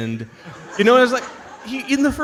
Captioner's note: audience laughs